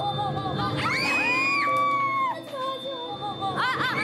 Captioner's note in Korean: 귓전에 울리는 공포 사운드